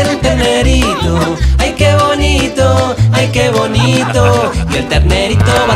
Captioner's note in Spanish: Risas